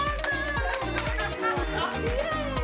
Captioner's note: applause and laughter